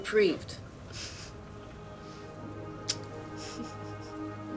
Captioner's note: chuckling